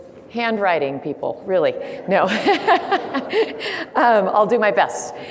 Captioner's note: laughs